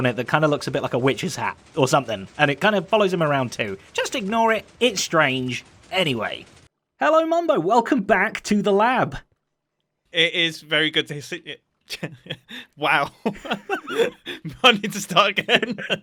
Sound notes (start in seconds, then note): 11.9 chuckles; 11.9 laughs